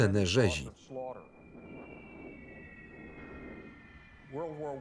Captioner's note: bombs whistle